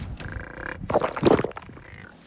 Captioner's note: gulp